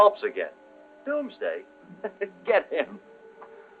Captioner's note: chuckling